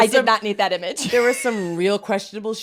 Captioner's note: laughs